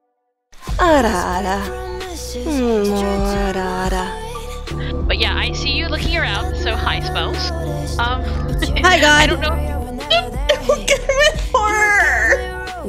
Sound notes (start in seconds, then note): 8.0 laughs; 8.2 crying in fear